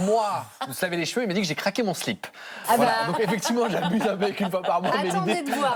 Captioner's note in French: rires